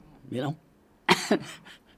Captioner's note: laughs